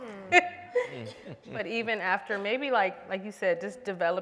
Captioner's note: laughs